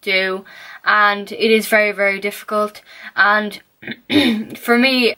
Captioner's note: cough